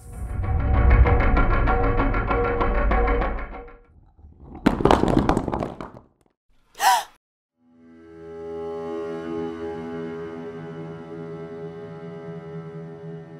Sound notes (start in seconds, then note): 0.0 dramatic music; 4.0 falling rocks; 6.7 gasp; 9.4 sad music